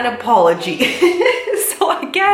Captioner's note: laughs